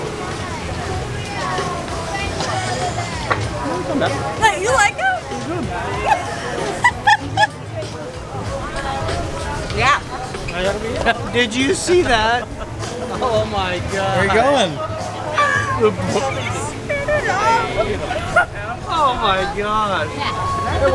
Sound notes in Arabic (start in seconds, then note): 6.0 ضحك